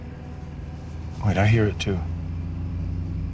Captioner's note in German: Rumpeln